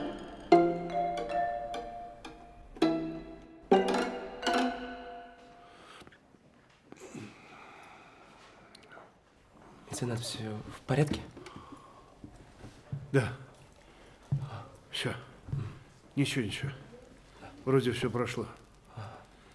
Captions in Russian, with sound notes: (СТРАННАЯ РВАНАЯ МУЗЫКА) (ВЗДОХ) Меценат, всё в порядке? Да, всё, ничего-ничего, вроде всё прошло.